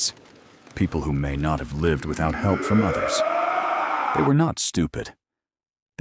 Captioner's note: groaning and screaming